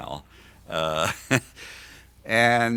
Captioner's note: laughs